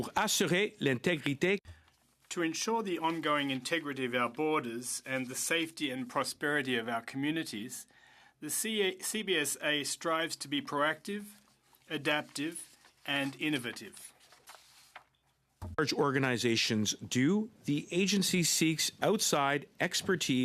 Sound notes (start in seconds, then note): 3.6 speaking French